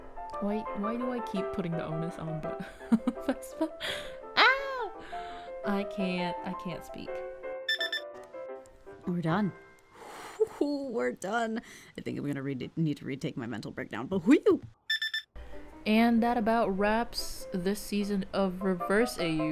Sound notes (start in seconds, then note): 4.0 shouts; 9.9 laughs